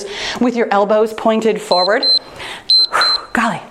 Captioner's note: timer beeps